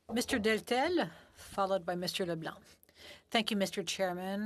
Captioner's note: speaking French